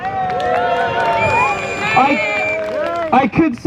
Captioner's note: crowd chants shame